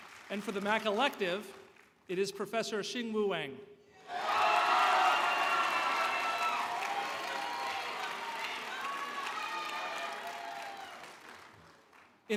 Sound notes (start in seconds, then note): 1.1 cheers and Applause